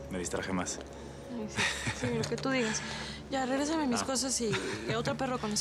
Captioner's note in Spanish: risas